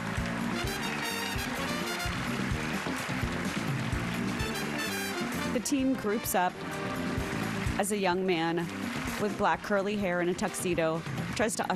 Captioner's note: applause